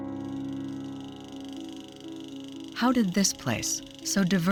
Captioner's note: film reel clicking